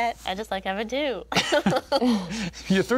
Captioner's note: group laughing